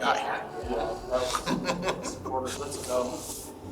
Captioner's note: deputy laughing